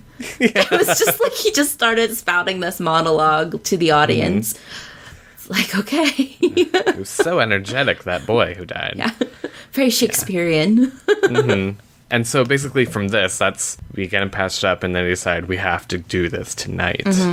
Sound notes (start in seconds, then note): 10.9 laughs